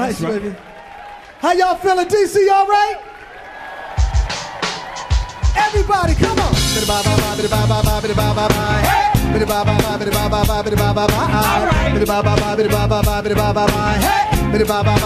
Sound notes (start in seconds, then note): 3.5 audience cheering